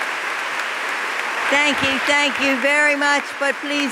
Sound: applause

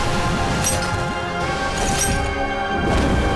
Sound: clacking

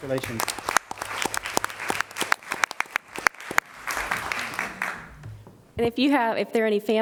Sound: applause

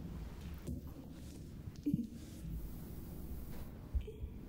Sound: Kate giggles

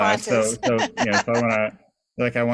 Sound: laughs

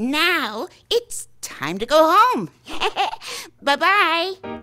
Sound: laughing

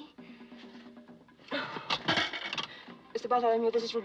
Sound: sighs; coin Drops

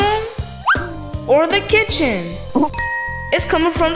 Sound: bell dinging

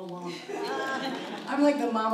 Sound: audience laughs

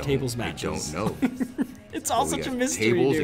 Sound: laugh

